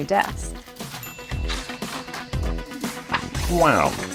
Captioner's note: bell dings